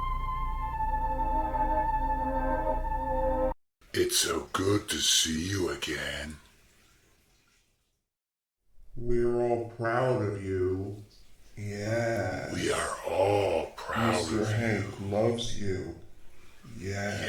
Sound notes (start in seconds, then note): 4.2 spooky male voice on TV; 9.2 spooky voice from the left; 12.7 male Spooky Voice